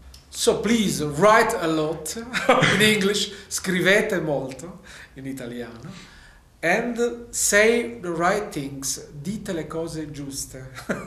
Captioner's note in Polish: po angielsku i włosku